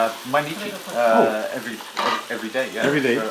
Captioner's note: Japanese language 00:04:59